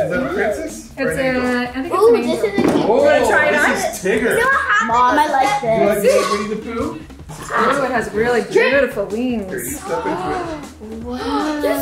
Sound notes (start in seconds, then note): 6.7 all chattering excitedly